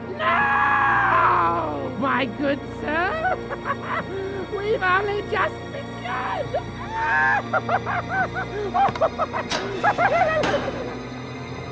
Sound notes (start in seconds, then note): 3.0 laughs; 6.8 laughs maniacally